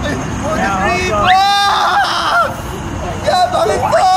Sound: screaming

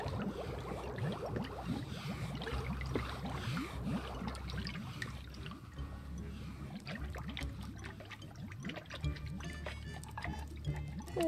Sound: bubbles

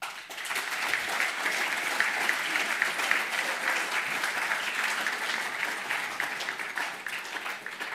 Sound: applause

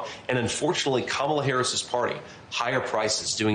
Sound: HABLA EN INGLéS

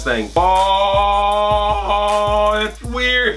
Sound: bellows

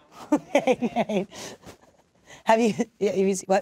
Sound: laughs

